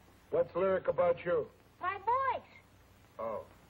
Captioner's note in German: spricht lauter